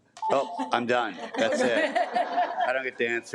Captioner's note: attendees laugh